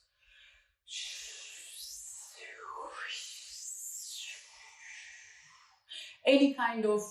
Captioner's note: vocal air sounds